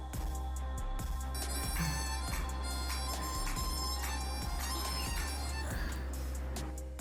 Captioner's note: ringtone playing